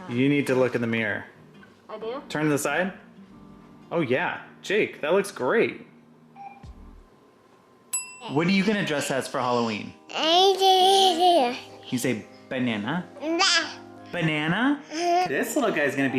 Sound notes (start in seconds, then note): 7.9 ding; 11.8 babbles; 13.2 baby babble